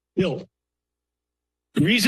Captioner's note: pause